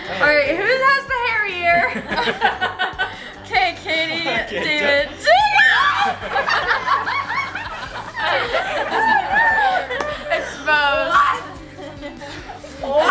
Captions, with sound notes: - All right, who has the hairy ear? Okay, Katie, David, Jacob! (laughing) Exposed.